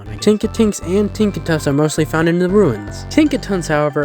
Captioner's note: none